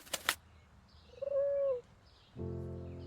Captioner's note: pigeon coos; slow piano music